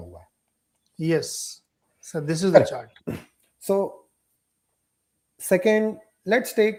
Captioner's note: sound of clearing throat